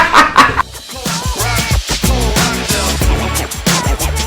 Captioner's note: both men laugh